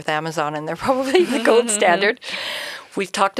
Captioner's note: chuckling